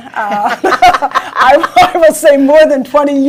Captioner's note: both laugh